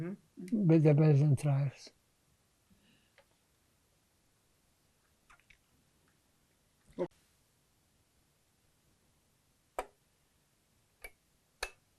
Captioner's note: pauses 40 seconds